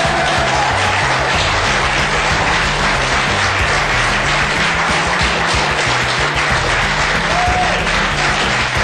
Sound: applauuuuuusssseee

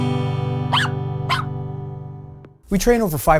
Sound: barking

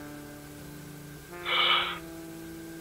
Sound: sigh

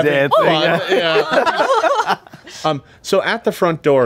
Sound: everyone laughing

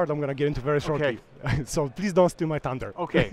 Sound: laughs

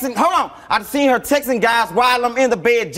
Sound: none

